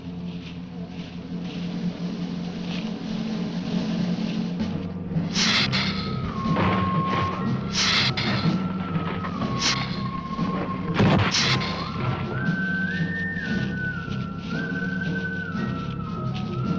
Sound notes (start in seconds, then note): 5.3 lizard hissing; 6.6 ground rumbling